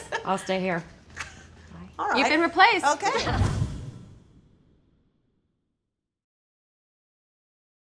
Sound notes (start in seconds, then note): 3.1 whooshing; 3.6 laughing